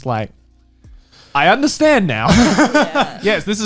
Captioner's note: laughs